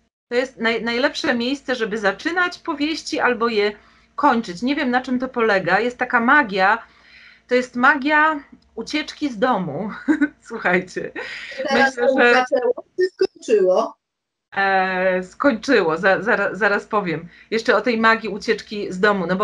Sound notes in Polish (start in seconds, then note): 10.0 śmiech